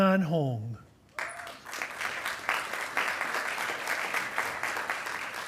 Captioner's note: attendees applauding